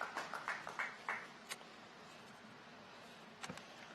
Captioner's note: applause